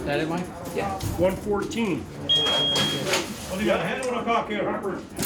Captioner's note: electronic beeping